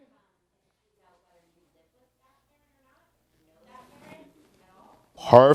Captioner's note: audience member speaking quietly